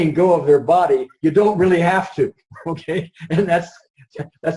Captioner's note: laughs